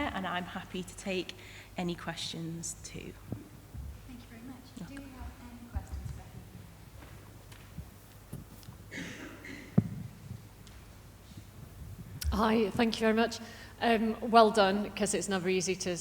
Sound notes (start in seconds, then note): 8.9 audience member coughing